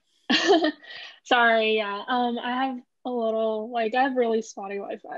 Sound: chuckles

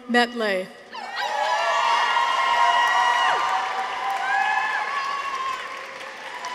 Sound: people cheer; audience applauds

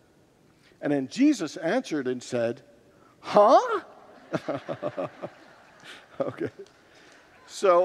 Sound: congregants laugh

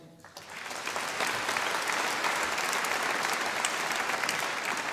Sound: audience applauding

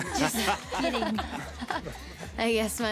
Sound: chuckles

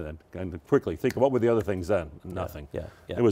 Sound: snaps

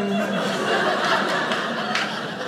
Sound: audience laughing

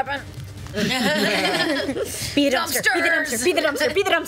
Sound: laughs

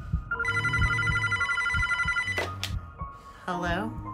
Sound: phone rings

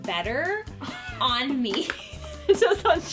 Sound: laughing

